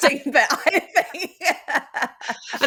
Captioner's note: laughter